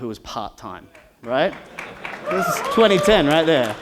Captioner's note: cheers and applause